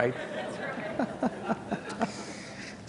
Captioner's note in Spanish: Risas